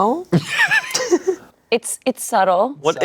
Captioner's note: everyone laughs